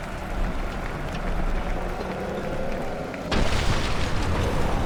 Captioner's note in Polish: motōr ôd pancra wyrczy